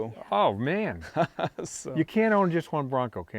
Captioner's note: laughing